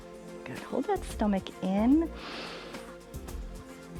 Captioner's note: inhales